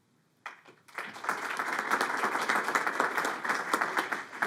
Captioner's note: audience applauding